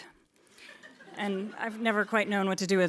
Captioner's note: audience laughing